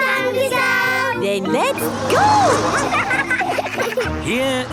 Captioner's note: laughing